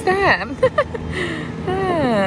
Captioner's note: laughs